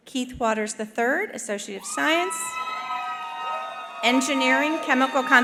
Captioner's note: attendees cheering